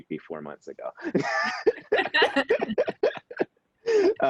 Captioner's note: all laughing